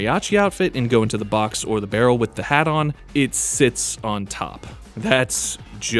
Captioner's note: laugh